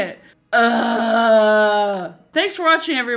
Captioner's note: groans in annoyance